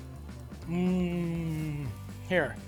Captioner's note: hums